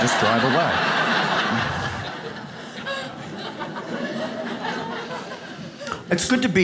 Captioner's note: audience laughs